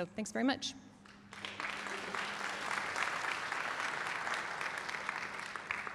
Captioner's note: applause